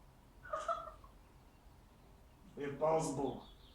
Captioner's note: Cathy laughing